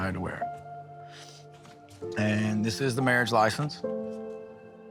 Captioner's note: sniffles